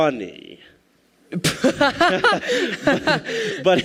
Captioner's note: laughs